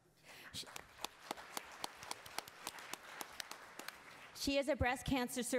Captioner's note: attendees applauding